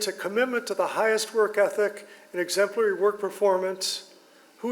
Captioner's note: none